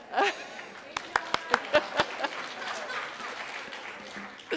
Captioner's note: applause